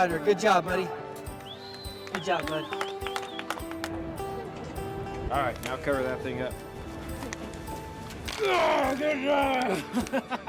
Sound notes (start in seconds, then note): 9.6 laughs